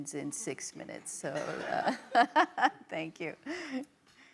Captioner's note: audience laughs